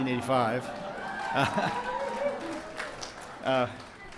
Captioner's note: cheering